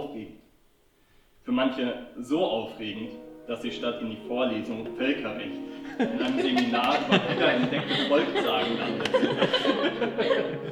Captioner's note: laughter